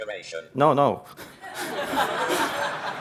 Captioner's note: laughter